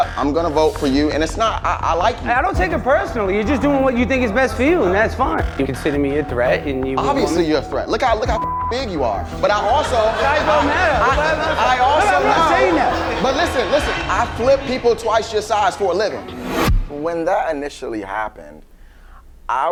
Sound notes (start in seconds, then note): 8.3 beep; 9.8 crowd laughs; 16.2 flash sound